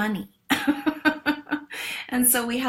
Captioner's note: laughs